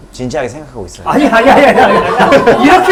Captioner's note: panicking